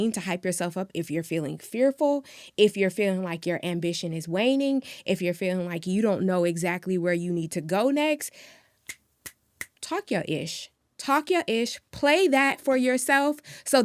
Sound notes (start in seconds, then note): 9.6 finger snapping